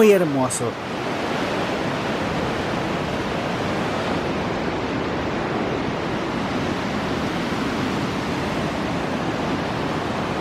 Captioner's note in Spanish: sonido ambiente del 'Río Cautín' y la cascada